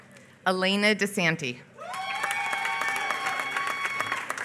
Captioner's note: applause